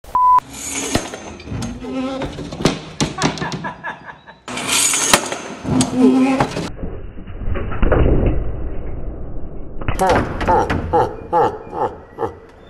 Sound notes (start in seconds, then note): 0.1 beeping; 0.5 crashes; 3.1 laughter; 4.5 crashes; 6.7 slow motion sound effect; 9.9 slow motion laughter